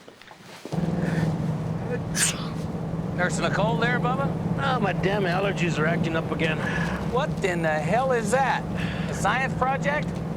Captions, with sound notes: (Dominguez sneezing) Nursing a cold there, bubba? Oh, my damn allergies are acting up again. What in the hell is that? A science project?